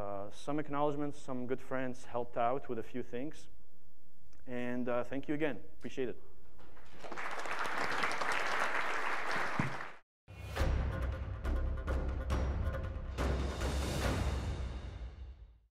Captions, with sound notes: Some acknowledgements, some good friends helped out with a few things. Thank you again. I appreciate it. (audience clapping) (tense music)